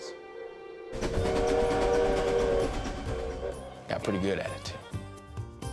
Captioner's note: train whistle